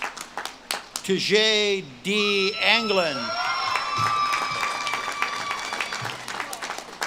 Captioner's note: audience claps and cheers